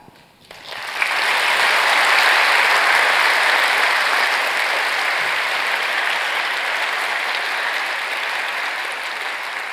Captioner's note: applause